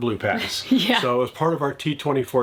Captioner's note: chuckles